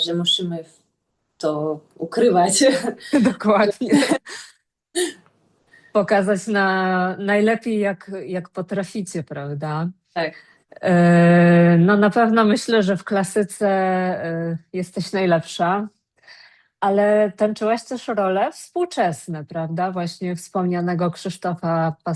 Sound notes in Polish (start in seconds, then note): 3.7 śmiech; 5.0 wciągnięcie powietrza